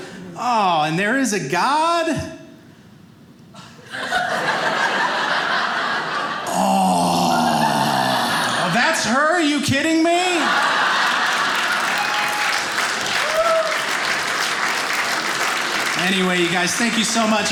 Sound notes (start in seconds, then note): 3.8 audience laughing; 10.3 audience applauding